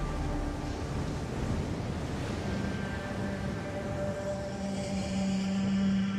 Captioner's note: sandstorm and wind